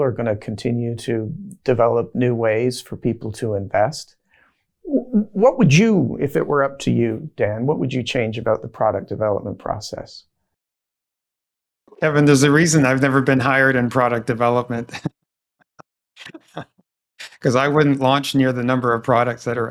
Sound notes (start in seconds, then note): 16.2 laughs